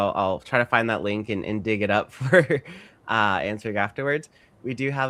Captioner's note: chuckles